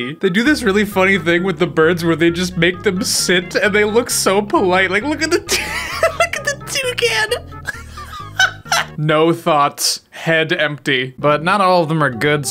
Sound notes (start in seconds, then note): 7.5 laughs